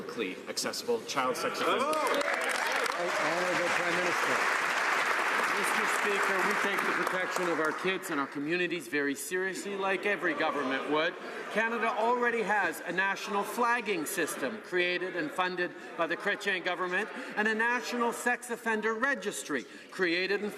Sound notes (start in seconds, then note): 6.7 some Applause